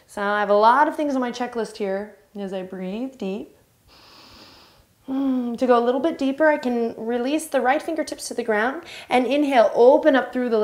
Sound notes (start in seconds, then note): 3.9 inhale